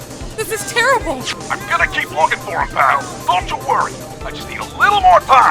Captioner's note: gallery chattering